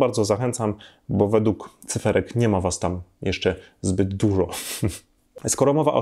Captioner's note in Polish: śmiech